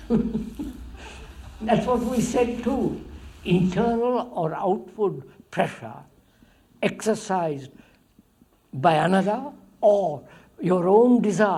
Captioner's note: laughs